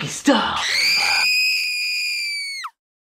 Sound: woman shrieking

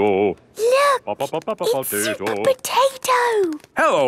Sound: hushed

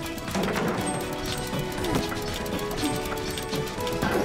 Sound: grunting

